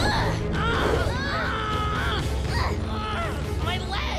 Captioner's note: screaming